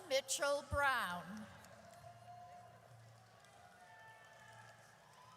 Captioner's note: audience cheers